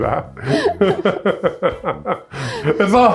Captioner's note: laughs